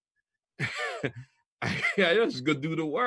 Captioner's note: laughs